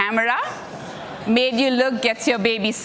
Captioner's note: audience laughing